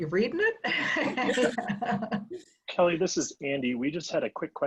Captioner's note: laugh